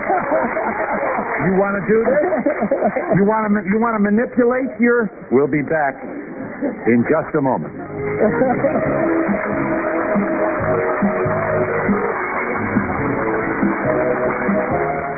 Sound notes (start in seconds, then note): 1.8 laughter; 8.6 applause